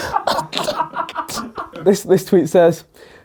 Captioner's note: laughs